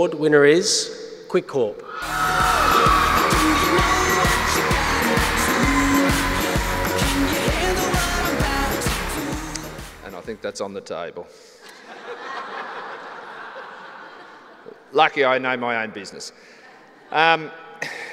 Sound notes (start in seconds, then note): 11.6 laughter